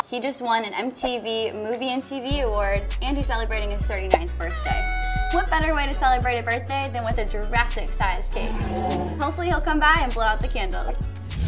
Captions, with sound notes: He just won an MTV Movie and TV award and he's celebrating his 39th birthday. (party horn sound) What better way to celebrate a birthday than with a Jurassic-sized cake? (dinosaur roaring) Hopefully he'll come by and blow out the candles.